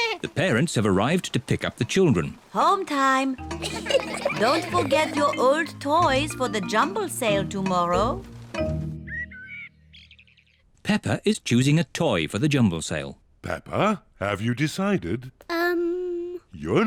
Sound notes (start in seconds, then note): 3.6 children giggling; 8.9 birds chirping